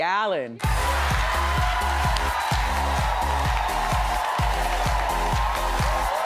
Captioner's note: audience cheering; energetic music